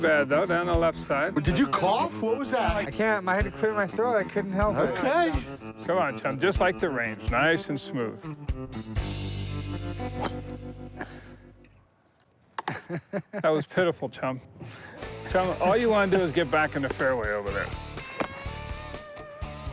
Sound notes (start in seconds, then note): 12.6 laughs